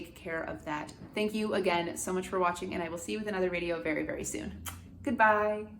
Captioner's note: kisses